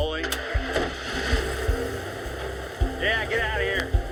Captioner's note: engine starts